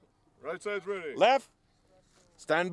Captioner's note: voiceover